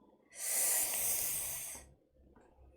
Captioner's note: sharp intake of breath